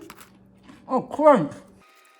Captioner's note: munches